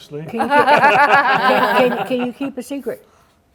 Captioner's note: laughter